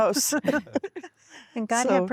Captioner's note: laughter